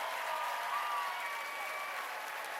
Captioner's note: cheers and applause